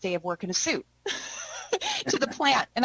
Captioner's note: both laughing